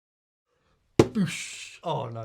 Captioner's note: hands smacking